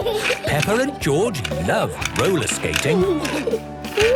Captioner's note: snorting and giggling; laughter